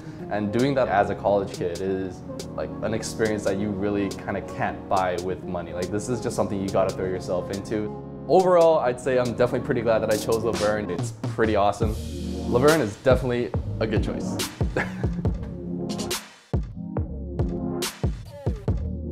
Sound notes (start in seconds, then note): 14.7 laughs; 16.0 mellow music